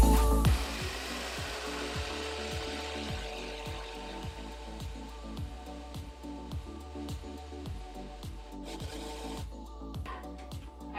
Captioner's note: blender whirls